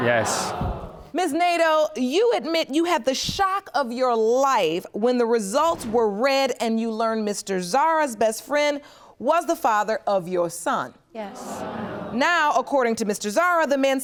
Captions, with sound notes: Ms. Nadeau, you admit you had the shock of your life when the results were read and you learned Mr. Zarra's best friend was the father of your son. (AUDIENCE GASPS) Yes. Now, according to Mr. Zarra, the man seated next to me